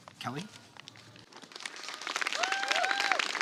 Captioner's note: applause